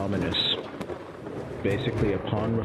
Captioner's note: thunder booming